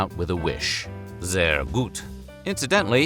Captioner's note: speaking german